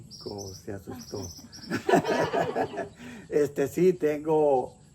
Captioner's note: laughter